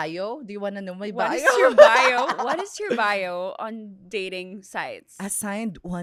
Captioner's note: laughs